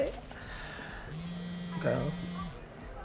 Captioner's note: phone buzzing